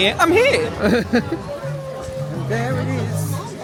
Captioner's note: chuckles